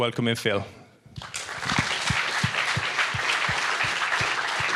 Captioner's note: audience applauding